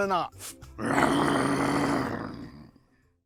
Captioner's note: growling